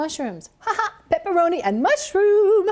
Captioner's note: laughs